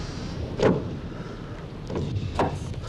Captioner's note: door thuds; giant breathing heavily